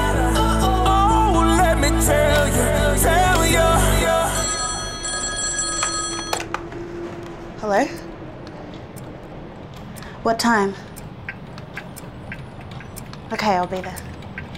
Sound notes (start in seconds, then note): 3.4 phone rings